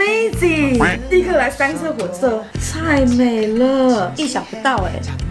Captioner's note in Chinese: 欠揍的發音